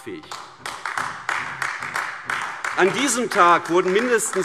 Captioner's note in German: Beifall AfD